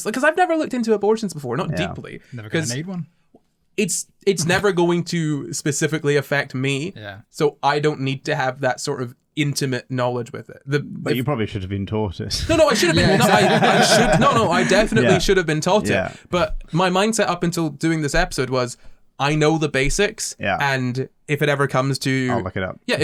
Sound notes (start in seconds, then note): 12.4 laughter